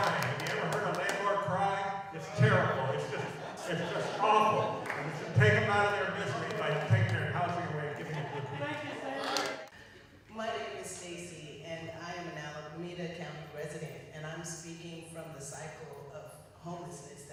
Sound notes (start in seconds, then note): 3.0 laughter